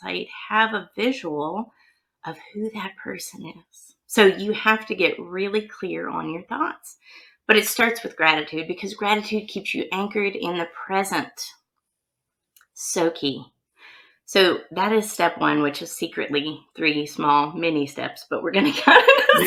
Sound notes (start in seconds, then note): 18.7 laughs